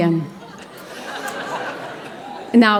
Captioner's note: audience Laughing